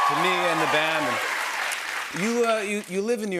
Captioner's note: cheers and applause